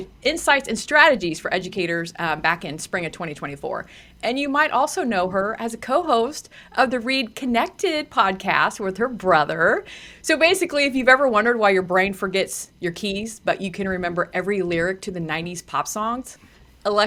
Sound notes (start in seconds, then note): none